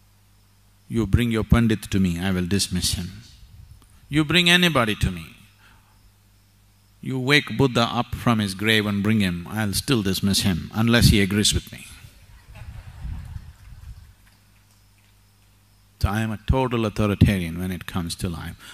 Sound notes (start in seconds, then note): 11.5 few laugh